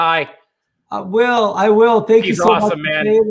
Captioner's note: murmurs